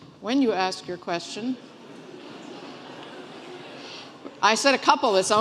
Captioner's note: laughing